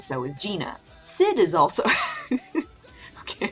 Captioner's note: breaks into laughter